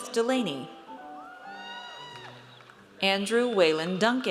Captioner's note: audience cheers